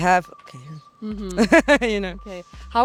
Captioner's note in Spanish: Ríe